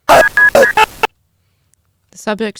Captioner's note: loud glitchy sounds